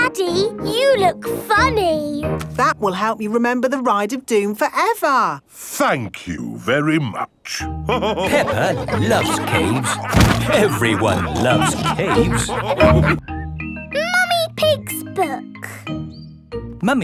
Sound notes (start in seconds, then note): 8.0 all laughing